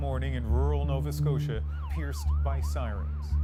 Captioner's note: sirens